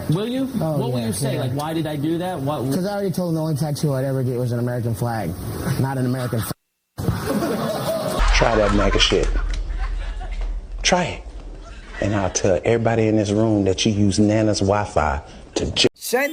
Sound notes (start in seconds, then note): 7.0 laugh